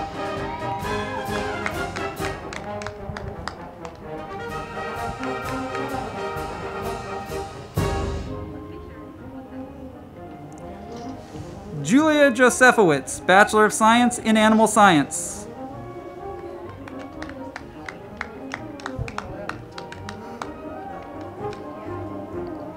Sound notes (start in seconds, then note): 0.0 crowd clapping; 0.0 band music; 16.2 crowd clapping; 16.7 band music